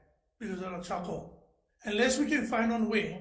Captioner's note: speaking in foreign language